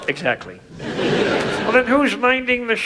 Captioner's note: audience laughs